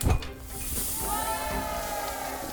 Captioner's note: object clinking; air whoosing; students cheering; bright music